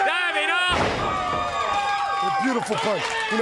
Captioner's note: crowd cheering